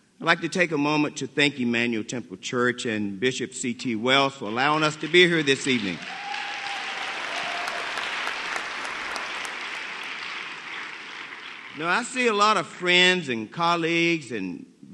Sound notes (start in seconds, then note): 4.8 applause